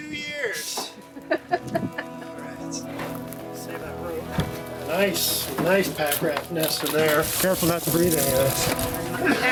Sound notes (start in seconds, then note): 1.0 chuckling